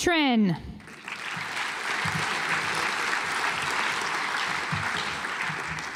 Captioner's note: audience applauds